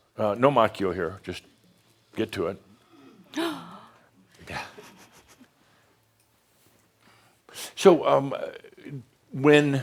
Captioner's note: gasps and then softly chuckles